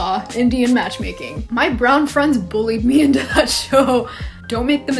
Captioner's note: laughs